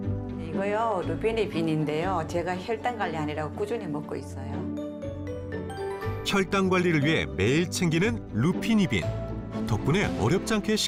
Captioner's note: voiceover